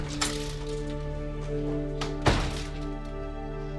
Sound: door closes

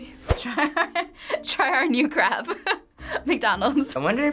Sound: laughing

